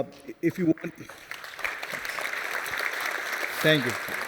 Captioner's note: applause